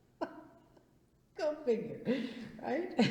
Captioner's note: laughs